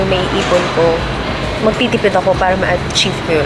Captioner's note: laughs